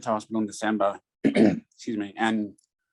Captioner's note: clears throat